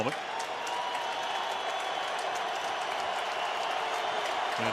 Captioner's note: crowd cheering